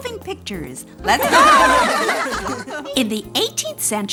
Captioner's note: children laughing